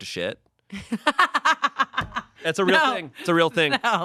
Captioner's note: laughs